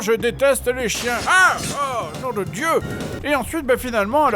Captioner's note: scared